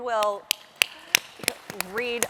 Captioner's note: applause